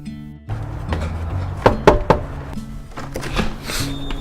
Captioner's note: knocks on door